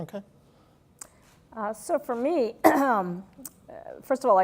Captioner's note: cough